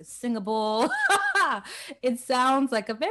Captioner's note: laughs